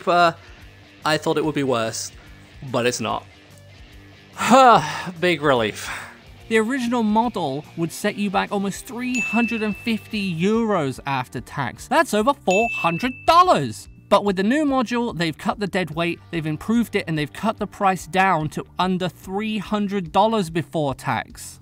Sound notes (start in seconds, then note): 5.8 biiiig exhale